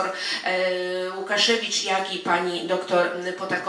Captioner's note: speaking in foreign language